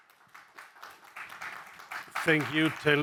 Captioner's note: audience applauding